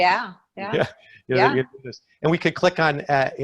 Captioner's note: speaking faintly